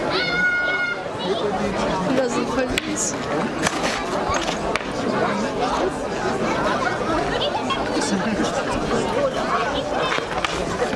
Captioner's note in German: Kampfgeräusche